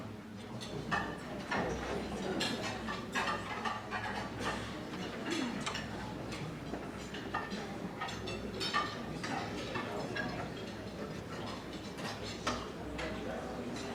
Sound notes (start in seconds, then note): 6.2 audience talking; 6.2 dishes clanging